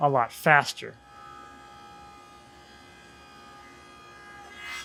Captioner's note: blades whirring